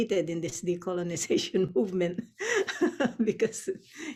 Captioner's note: laughs